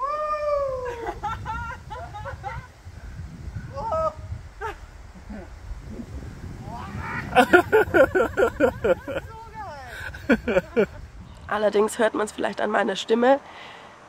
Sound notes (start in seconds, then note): 2.4 laughter; 7.2 laughter